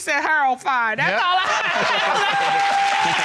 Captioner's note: laughs; audience applauding